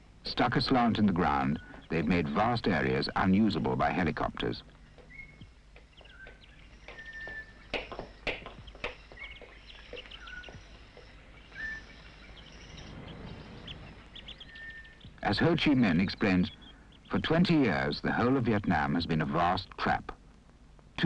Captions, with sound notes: Stuck as slant in the ground, they've made vast areas unusable by helicopters. (crickets whistling) As Ho Chi Minh explains, "For 20 years, the whole of Vietnam has been a vast trap.